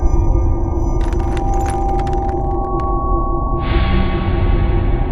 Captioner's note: glass crunching